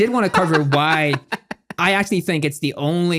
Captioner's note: laughing